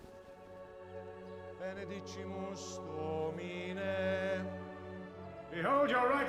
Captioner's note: priest speaking in latin